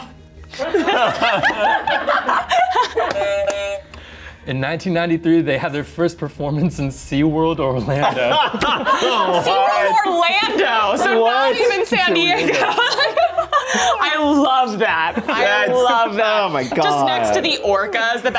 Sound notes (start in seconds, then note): 0.6 laughs; 3.3 buzzer sounds